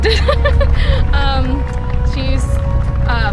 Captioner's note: laughing